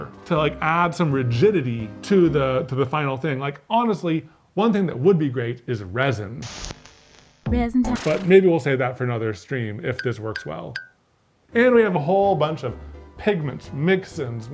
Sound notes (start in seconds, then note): 6.4 static hisses; 9.6 blink sound effect